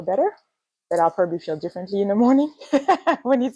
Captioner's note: laughs